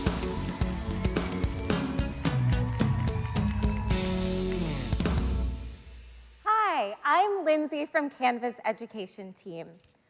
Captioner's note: applause